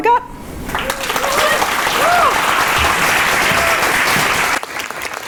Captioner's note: audience applauding